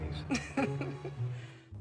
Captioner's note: laughter